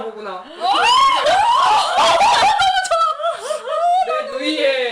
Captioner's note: laughing